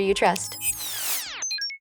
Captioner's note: beeping